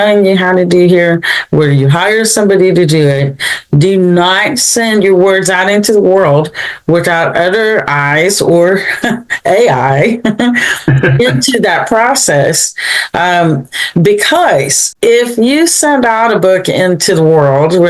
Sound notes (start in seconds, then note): 9.9 laughs